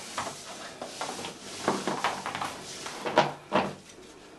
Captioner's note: rope rustling